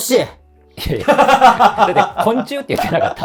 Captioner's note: laughing